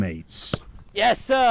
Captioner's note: football kicking